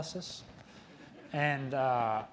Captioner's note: audience laughing